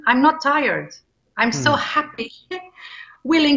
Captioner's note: chuckles